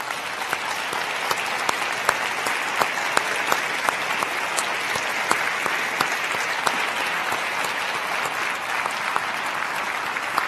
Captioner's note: crowd applauding